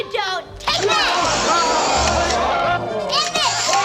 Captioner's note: crowd gasps